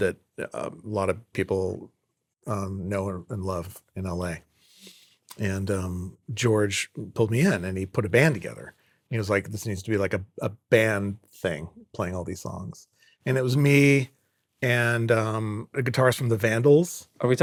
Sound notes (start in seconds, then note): none